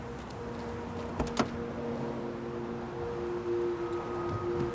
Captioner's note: truck door opens